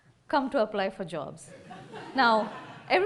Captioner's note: laughter